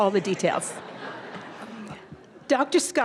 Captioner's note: audience laughter